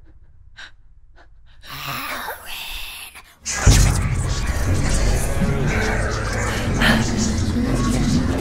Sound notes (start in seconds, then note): 2.2 creepy Voice